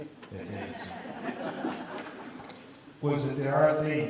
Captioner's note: audience laughs